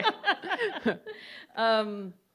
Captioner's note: laughs